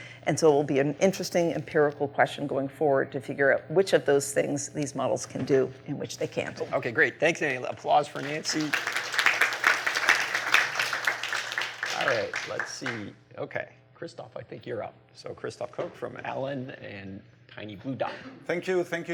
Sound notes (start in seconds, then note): 8.1 applause